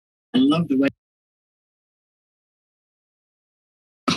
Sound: silence

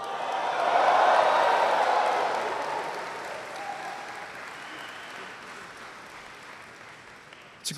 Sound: applause

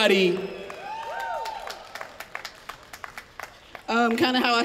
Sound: applause, cheering

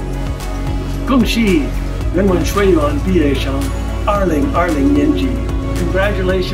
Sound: speaking foreign language

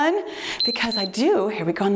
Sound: timer beeps

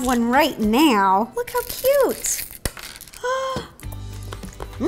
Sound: gasp

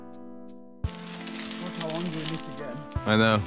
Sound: branches crunching

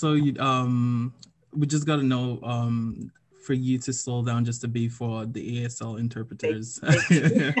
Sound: laughs

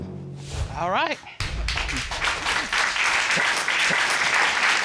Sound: audience applauding

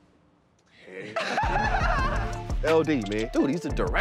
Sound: laughter

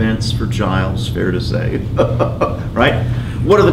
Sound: laughs

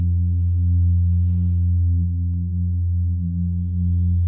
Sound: inhales deeply

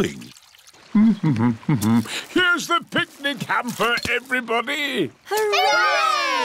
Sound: hums

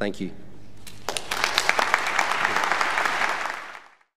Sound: applause

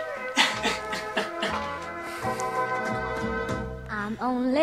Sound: chuckles

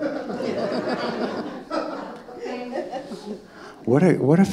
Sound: audience laughing

